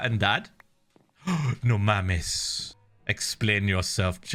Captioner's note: gasps; Spanish